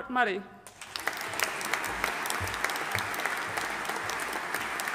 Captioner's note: audience applauding